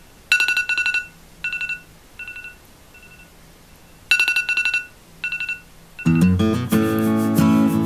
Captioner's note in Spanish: Sonido de alarma